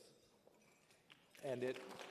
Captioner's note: applause